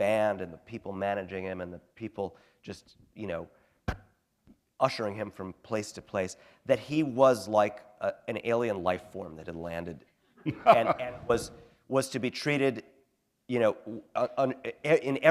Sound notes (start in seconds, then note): 10.4 laughter